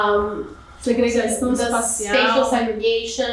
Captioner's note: speaking portuguese